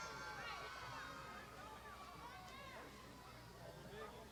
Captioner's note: crowd shouting